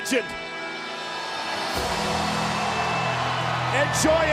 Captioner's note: audience cheering